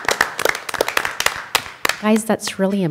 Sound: applause

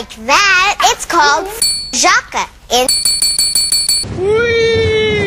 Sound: repeated dings; ding

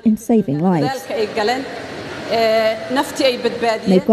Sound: speaking somali

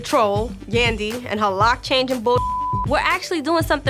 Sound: beep

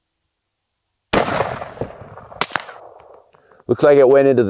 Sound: firearm shooting

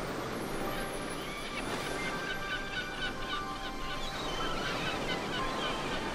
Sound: waves splashing; pensive music; birds squawking

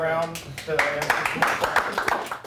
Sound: applause

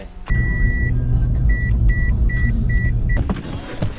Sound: beeps

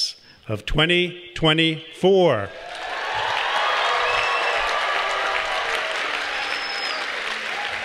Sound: applause

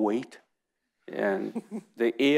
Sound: chuckles

